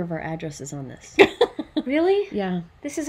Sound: laughs

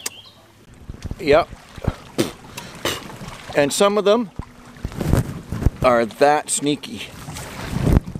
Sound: spits

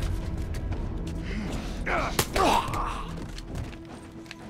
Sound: dying choke; Joel grunts

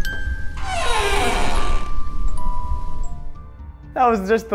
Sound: creepy music box playing; door creaking

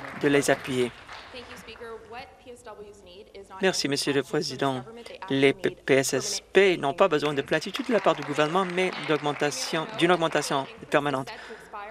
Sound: some Applause

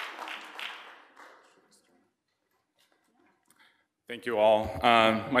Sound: speaking faintly

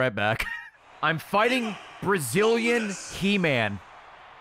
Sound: laughs

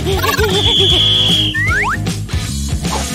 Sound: screaming

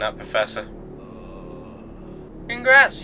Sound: groaning

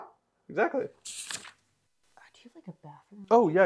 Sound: page turning

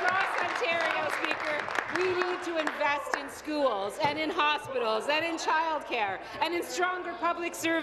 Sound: applause

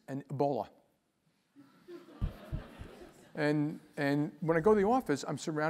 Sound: laugh

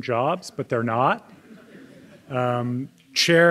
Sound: audience laughing

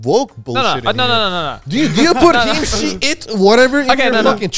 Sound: group chattering

